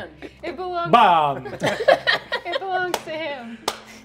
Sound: laughing

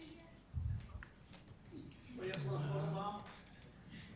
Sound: group chatter

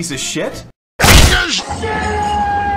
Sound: punch

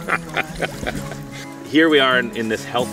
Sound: laughter

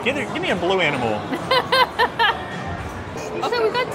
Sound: laughs

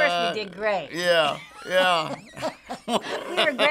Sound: laughing

